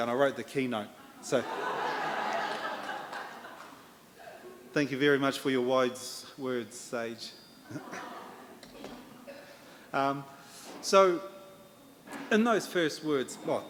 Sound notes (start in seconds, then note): 1.4 audience laughter